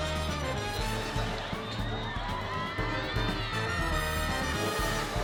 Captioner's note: crowd cheers